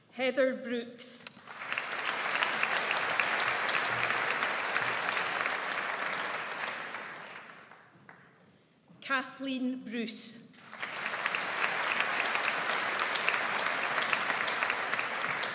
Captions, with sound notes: Heather Brooks. (AUDIENCE APPLAUDS) Kathleen Bruce. (AUDIENCE APPLAUDS)